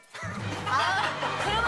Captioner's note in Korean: 푸흡!